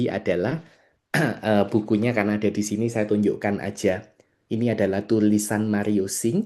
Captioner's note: berdehem